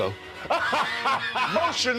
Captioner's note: laughs